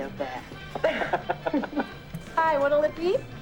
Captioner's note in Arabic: يضحك